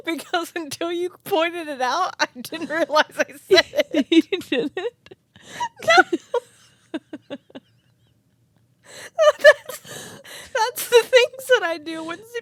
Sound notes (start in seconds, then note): 5.4 both laughing